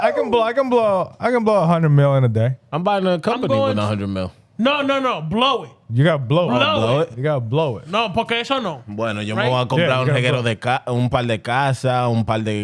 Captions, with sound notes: I can blow 100 million a day. I'm buying a company with 100 million. No, no, no, blow it. You gotta blow it. Blow it. You gotta blow it. No, okay, so no. (Speaking In Foreign Language)